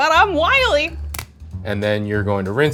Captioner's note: shell crunches